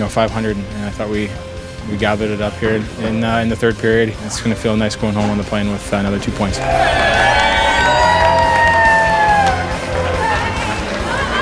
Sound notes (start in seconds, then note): 6.7 fans cheer